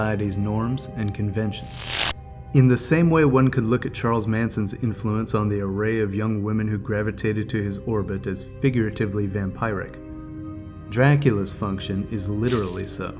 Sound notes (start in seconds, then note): 1.6 electricity buzzing